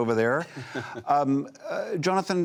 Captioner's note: laughter